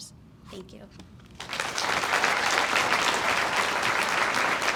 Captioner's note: audience applauds